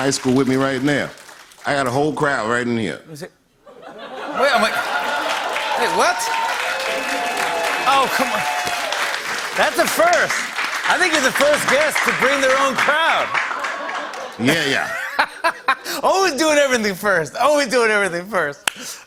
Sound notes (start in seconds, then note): 3.6 laughter; 6.3 cheers and applause